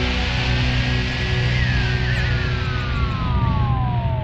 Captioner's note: birds chirping